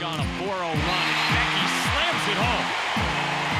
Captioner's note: crowd cheering